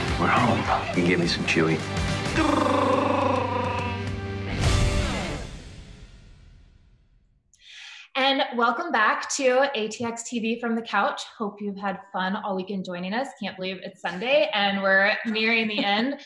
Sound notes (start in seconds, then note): 2.3 Chewbacca roar